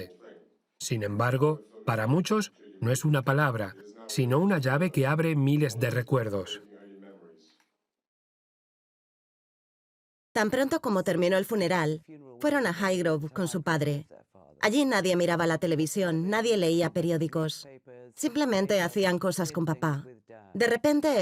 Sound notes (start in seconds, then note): 10.7 voiceover